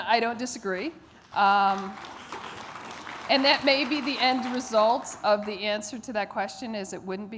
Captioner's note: audience clapping